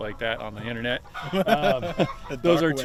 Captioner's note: laughing